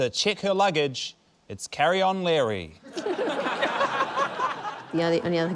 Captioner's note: laughter